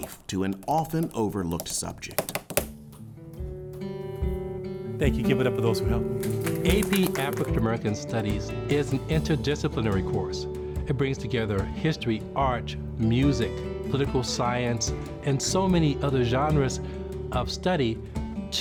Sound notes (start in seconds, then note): 2.5 gentle music; 2.5 tapping ending; 6.4 students applauding